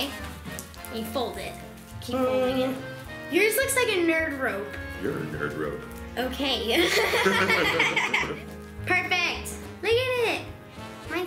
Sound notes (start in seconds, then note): 6.7 laughs